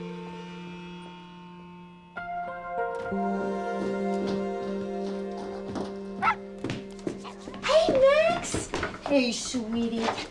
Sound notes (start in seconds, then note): 6.2 dog barking